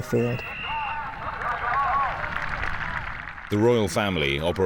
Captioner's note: official whistling